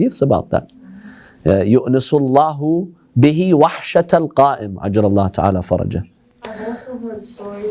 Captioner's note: Arabic